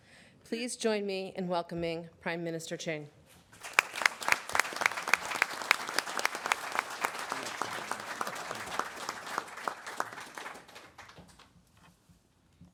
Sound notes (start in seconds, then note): 3.5 audience applauds